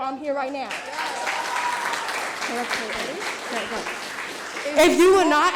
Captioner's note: audience applauding; both mumbling